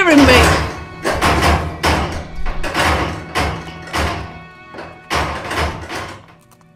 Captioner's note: cell rattles